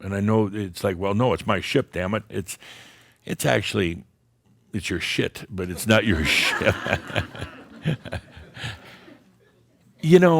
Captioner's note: laughter